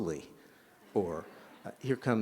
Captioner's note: laughter